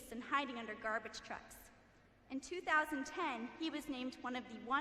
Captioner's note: none